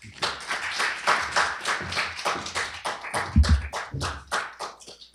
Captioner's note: applause